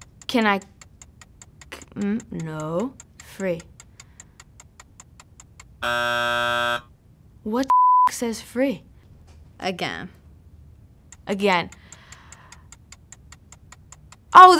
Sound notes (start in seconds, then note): 0.0 clock ticking; 5.8 buzzer; 7.6 beep; 11.0 clock ticking